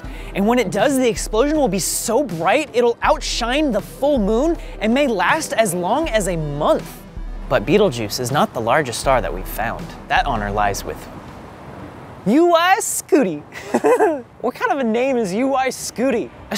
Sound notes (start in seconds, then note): 13.5 laughing